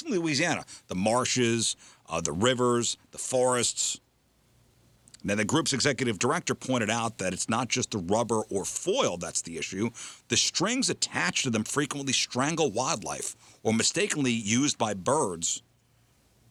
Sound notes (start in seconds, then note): none